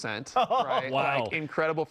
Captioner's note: laughs